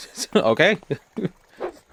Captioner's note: laughing